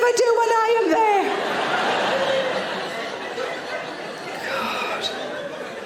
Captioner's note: audience laughing